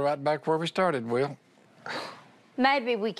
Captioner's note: sighs